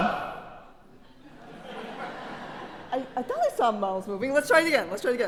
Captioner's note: laugh